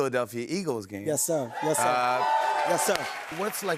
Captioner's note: cheers and applause